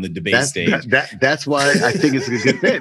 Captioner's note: laughing